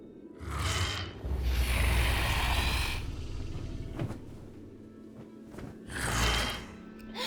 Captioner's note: dragon growls; feathers flaps